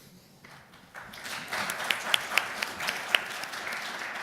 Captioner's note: applause